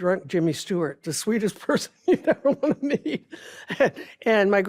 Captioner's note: laughs